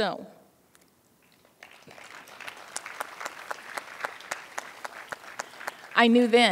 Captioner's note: applause